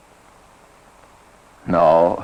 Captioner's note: none